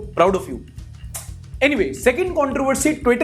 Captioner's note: kiss